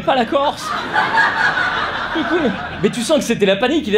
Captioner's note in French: rires